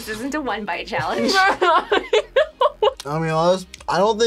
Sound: laughs

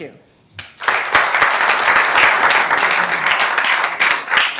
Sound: members applauding

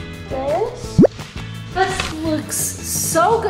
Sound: bloop noise

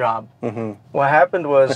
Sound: chuckles

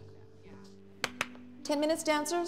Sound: claps

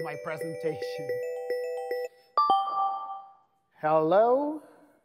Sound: phone ringing

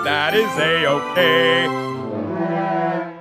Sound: blows horn

